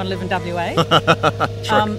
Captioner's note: laughing